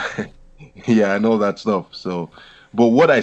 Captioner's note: laughs